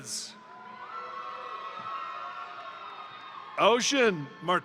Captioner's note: crowd cheering; crowd applauding